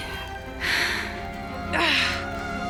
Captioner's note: grunting